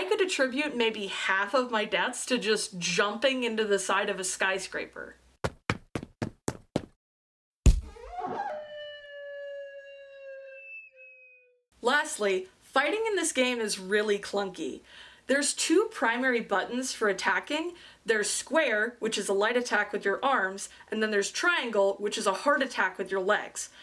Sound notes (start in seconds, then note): 5.4 footsteps; 7.5 smack; 7.9 whistle